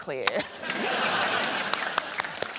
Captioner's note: laughter